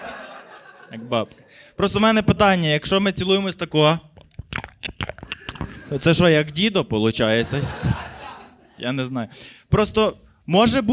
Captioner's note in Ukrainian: звуки засосів